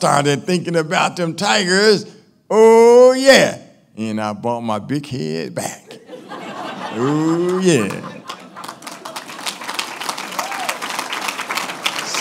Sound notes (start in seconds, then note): 5.8 laughing; 9.3 applauding